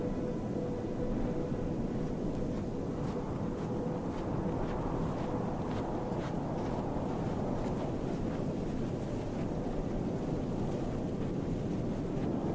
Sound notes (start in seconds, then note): 2.2 steps rustling; 3.3 wind whooshing